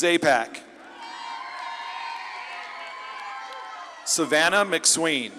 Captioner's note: audience claps and cheers